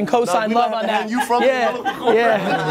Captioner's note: laughing